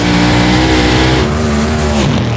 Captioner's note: wheels humming; cars roaring; cars buzzing